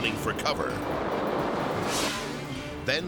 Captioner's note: fireworks exploding; air whooshes